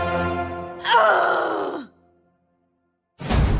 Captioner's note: shouting; war Drums